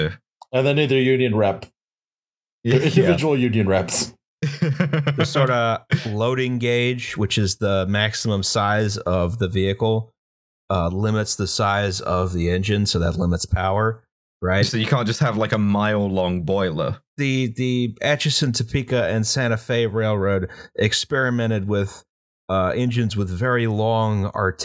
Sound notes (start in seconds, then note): 4.4 laughter